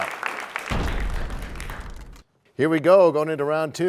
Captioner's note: crashing sound